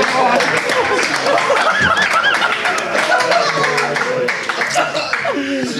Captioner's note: Sidemen laughing